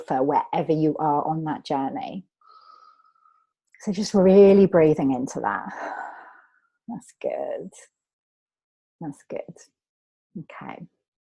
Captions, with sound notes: wherever you are on that journey. So just really breathing into that. (exhales) That's good. That's good, okay.